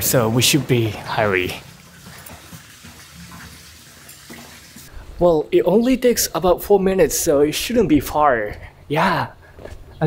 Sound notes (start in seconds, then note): none